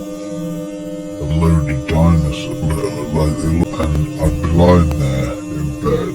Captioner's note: audio distorting